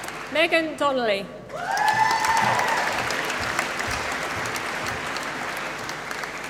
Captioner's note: applause